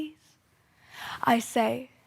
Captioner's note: sharp breath